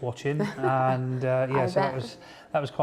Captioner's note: laughing